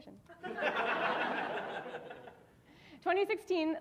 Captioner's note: audience laughing